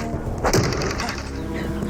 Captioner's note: thwack